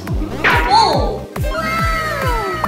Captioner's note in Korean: 빵!